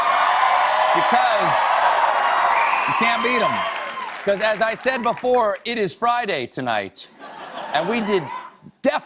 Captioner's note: cheers and applause